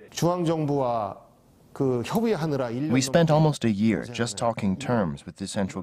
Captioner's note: Korean